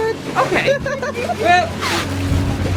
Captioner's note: laughter